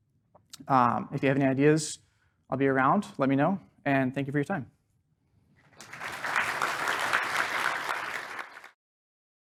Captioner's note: applause